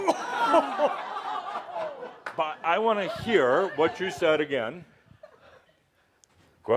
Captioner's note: Adamus slaps him, audience gasps and laughs